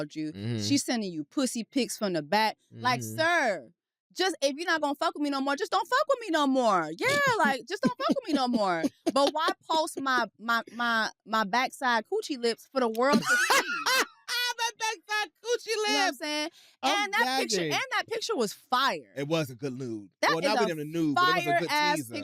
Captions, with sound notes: She's sending you pussy pics from the back. Like, sir. Just-- If you're not gonna fuck with me no more, just don't fuck with me no more. Yeah, like, just don't fuck with me no more. But why post my backside coochie lips for the world to see? (LAUGHS) That backside coochie lips! You know what I'm saying? And that picture was fire. -It was a good nude. -That is a fire ass picture.